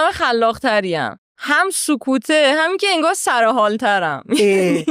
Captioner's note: laughs